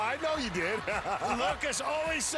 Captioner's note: cheering